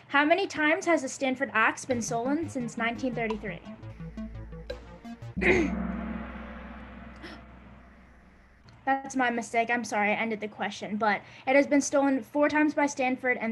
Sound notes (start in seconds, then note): 3.8 gong; 3.8 upbeat music